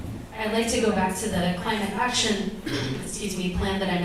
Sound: coughs

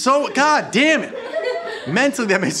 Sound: laughing

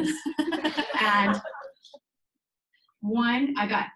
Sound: people laughing

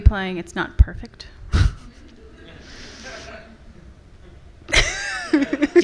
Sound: and audience members laughing; laughing

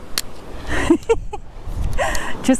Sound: laughing

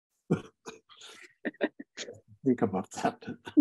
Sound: chuckling

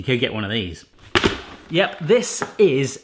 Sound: appliance clatters gently

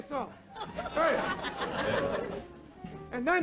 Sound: laughter

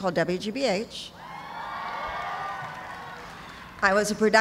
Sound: cheers and applause

